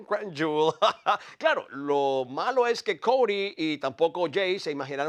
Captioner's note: laugh